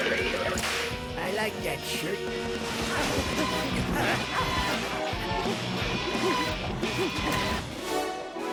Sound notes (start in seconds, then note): 2.7 panting